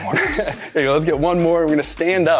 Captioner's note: chuckles